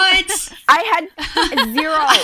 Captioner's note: hosts laugh